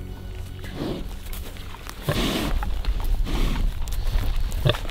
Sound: pig sniffing

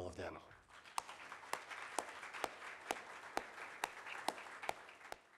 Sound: audience applauding

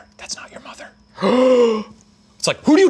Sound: gasping

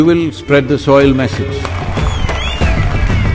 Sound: cheering/Applause

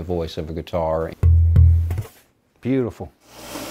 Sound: hollow thuds

